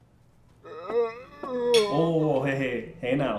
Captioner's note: Dom moans